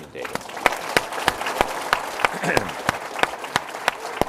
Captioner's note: audience applauds